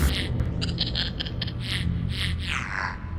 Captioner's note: robotic chuckling